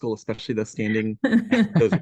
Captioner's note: chuckle